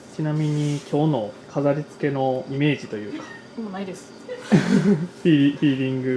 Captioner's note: laughs